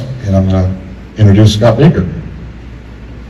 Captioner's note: none